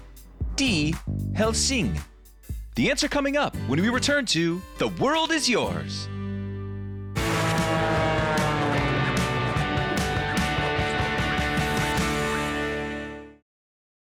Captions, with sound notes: The answer coming up when we return to 'The World is Yours.' (upbeat music) (plane engine)